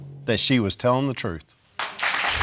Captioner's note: audience applauding